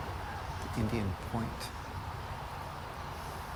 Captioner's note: none